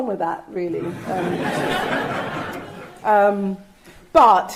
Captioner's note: audience laughing